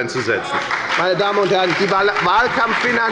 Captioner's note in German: Beifall bei der FDP, der SPD und der LINKEN